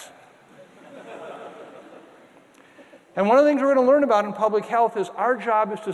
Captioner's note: audience laughter